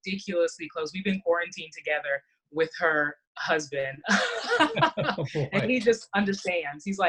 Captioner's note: laughs